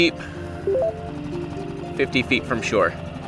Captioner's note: bell chimes